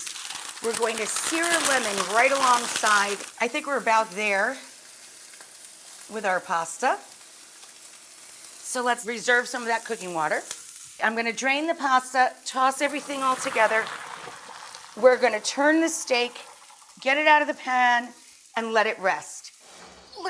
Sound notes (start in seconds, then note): 12.9 water sloshing; 19.6 screen swoosh